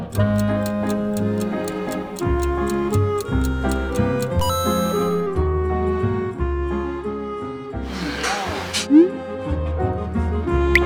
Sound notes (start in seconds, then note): 5.7 the bear sticks his nose into the new dish, exploring it. / Sniffing